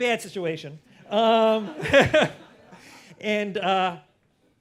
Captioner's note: laughter